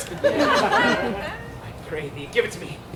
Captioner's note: audience laughs